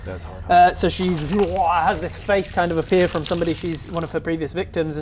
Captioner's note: urghblgh